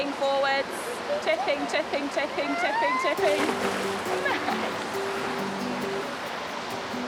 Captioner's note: laughs